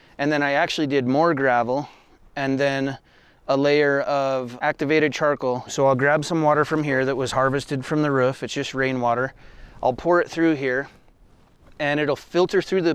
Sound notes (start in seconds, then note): none